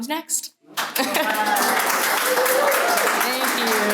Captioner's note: applause